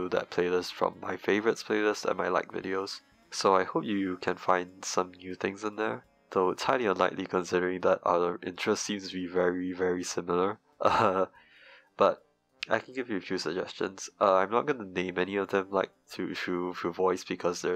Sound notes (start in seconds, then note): 10.8 chuckles